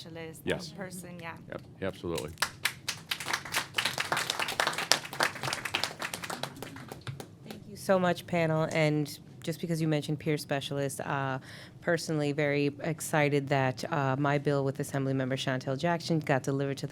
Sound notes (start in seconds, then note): 4.2 applause